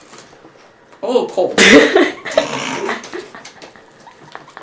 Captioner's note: laughter